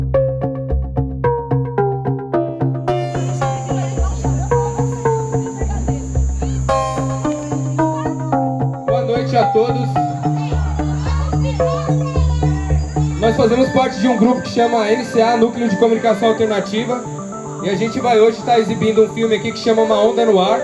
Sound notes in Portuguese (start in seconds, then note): 0.1 Trilha continua; 8.4 Homem pelo microfone; 10.3 Crianças conversam